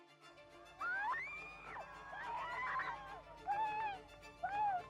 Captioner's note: crowd screams